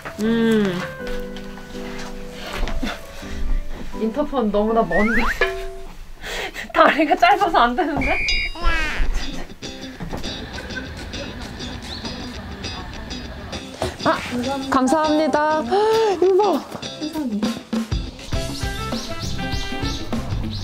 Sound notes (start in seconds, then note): 6.1 laugh; 8.6 laugh; 15.7 gasp